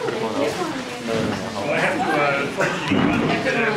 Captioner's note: crowd noises